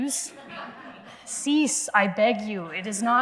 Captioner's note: laughter